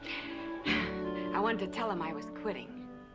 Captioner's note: sighs